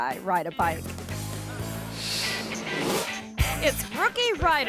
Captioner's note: audience laughing; image whooshes